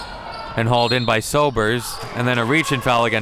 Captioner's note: whistle blows